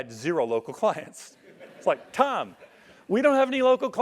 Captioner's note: laugh